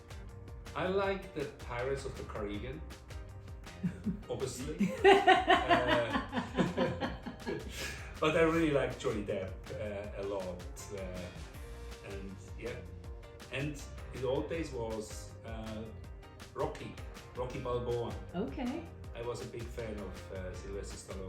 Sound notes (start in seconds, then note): 3.8 laughs